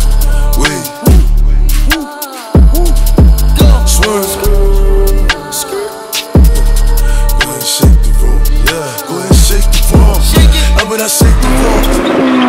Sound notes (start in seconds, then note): 3.3 skrrt, skrrt